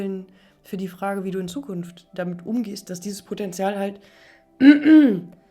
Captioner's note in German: husten